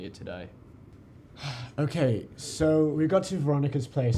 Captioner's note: sigh